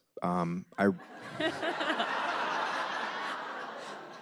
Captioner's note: laughter